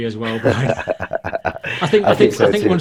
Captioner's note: all laughing